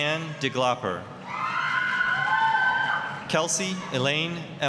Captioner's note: applause, cheering